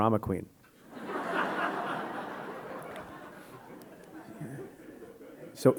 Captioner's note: audience laughing